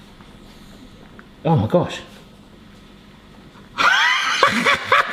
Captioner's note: laughs